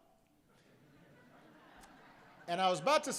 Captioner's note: laughter